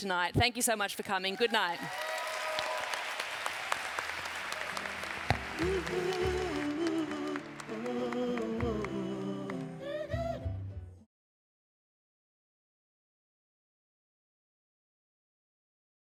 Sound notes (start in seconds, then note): 1.3 cheering